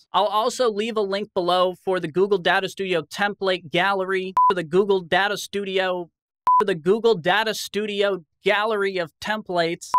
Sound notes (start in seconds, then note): 6.4 beep